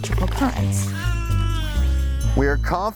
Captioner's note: baby gibbering